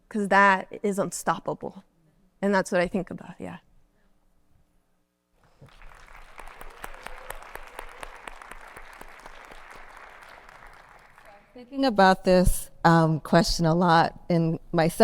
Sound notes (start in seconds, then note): 5.4 audience clapping